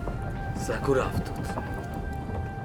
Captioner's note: man speaks in foreign language